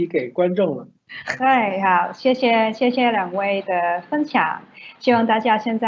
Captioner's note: Mandarin